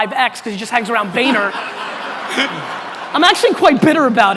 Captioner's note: audience laughter